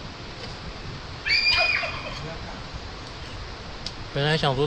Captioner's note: wailing and howling